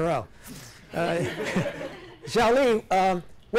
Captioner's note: class laughs